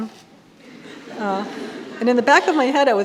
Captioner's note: audience laughing